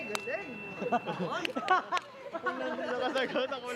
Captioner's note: laughter